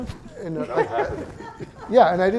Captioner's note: laughter